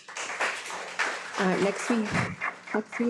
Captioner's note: audience applauding